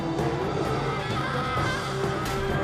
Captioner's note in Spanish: gritando